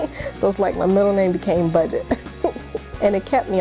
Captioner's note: laughs